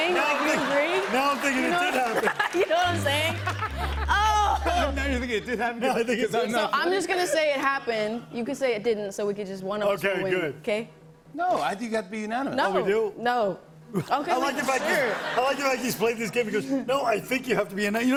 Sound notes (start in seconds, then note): 3.8 sad trombone; 14.0 laughter